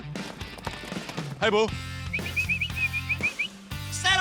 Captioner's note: whistles